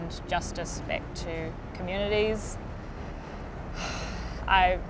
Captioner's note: sighs